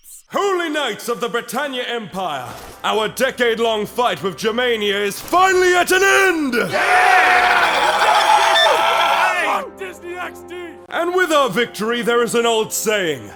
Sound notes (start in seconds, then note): 6.8 banshee squeal